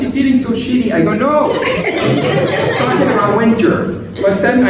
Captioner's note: laughter